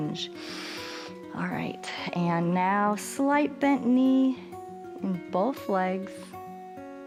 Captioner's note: inhales